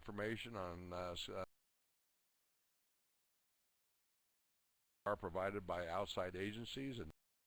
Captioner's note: audio drops